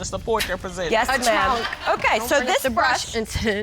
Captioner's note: scoffs